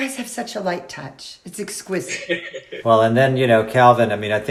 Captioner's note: laughs